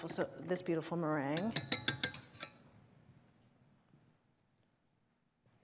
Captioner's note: metal clanking